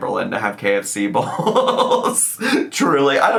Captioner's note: laughs